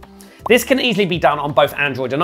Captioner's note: soft popping